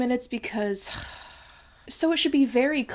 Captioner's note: sighing